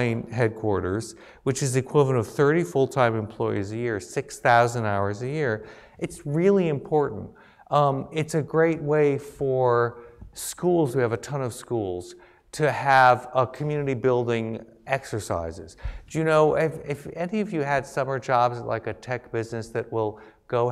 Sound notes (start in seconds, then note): none